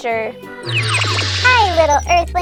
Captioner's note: warping noise